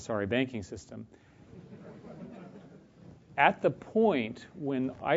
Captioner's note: laugh